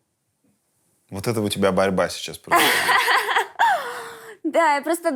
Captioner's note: laughs